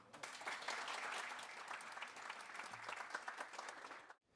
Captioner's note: audience applauding